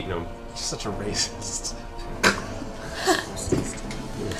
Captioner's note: laughs